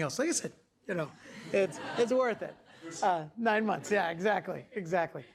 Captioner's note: class laughing